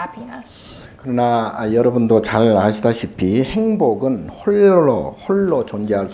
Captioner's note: speaking Korean